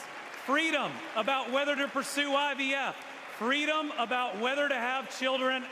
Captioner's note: applause